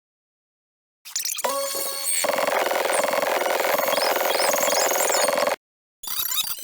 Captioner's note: high-pitched fast-forward noises